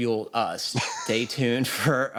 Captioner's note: laughter